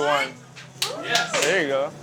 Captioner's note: clapping